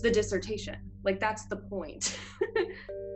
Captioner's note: laughs